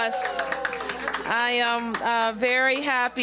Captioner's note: applause